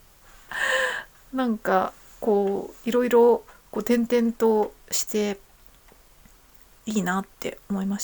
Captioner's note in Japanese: 息をのむ音